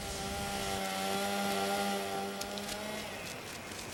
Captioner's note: chain saw whines